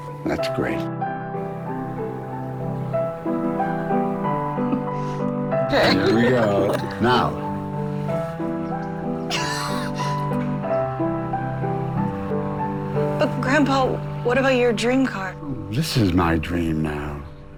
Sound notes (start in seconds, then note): 5.7 laughing; 8.3 gasps